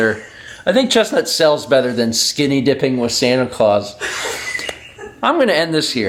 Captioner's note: wheezes; wheezes again